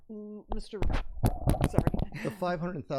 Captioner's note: microphone rattles